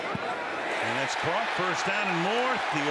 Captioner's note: cheering